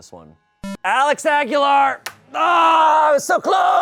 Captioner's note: electronic boop